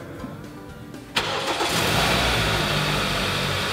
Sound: engine starting

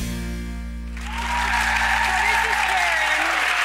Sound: audience applauding

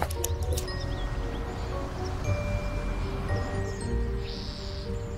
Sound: traffic humming

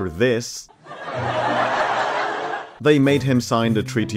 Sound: laughter

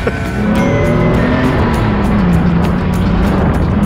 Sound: laughs; engine revs

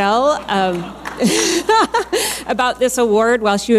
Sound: laughing

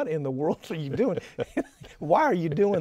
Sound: laughter continues

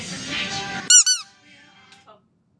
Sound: toy squeaks; upbeat music

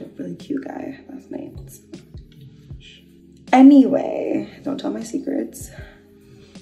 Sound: shhh

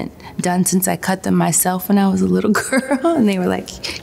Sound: laughs

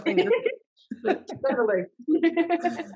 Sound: laughs

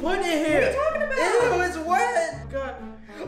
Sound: grunts

